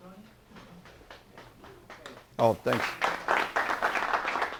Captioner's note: applause